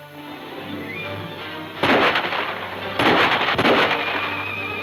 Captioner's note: gunfire pops